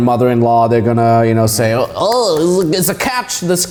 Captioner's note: clapping